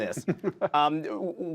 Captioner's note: laughter